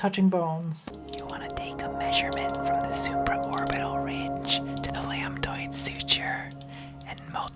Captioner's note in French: Murmures sensuels